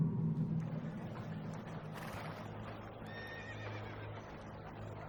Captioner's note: sound of crowds and rumbling of chariots